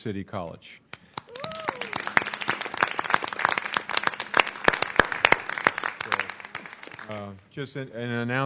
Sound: applause

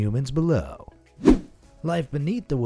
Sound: air whooshing

